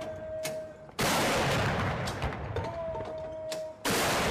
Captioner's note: gunshots